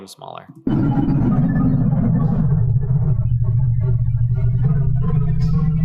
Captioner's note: distorted electronic beeping